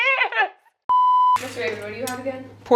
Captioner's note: test screen beeping